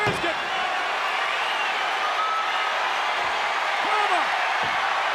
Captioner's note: audience cheers